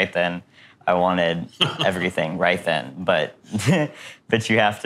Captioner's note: laughing